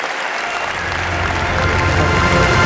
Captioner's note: applause